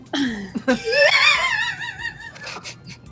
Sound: laughter

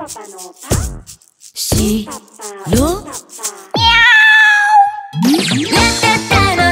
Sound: meow !!

